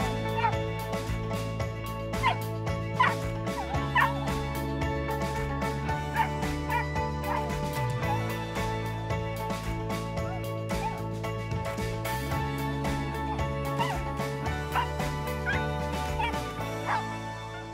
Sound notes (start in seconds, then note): 3.6 dog yipping; 3.9 upbeat music